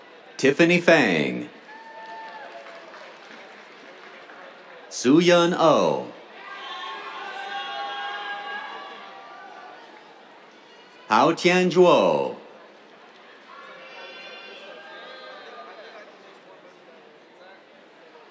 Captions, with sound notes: Tiffany Feng. [CHEERS, APPLAUSE] Sooyeon Oh. [CHEERS] Haotian Zhuo. [CHEERS]